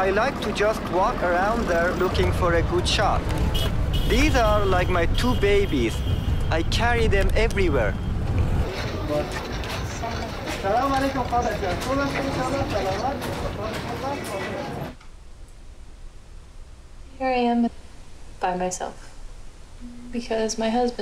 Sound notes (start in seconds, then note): 7.3 woman, speaking native language; 9.0 speaking native language